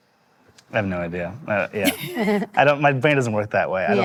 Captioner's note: laughing